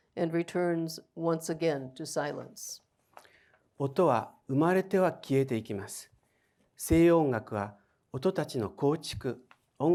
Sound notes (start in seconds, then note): 3.8 speaking in foreign language